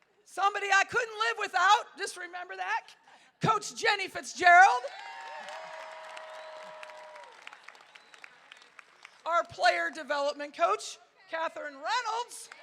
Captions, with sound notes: Somebody I couldn't live without. Just remember that coach Jenny Fitzgerald. (crowd cheering) Our player development coach, Katherine Reynolds.